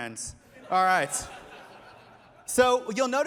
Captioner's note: laughter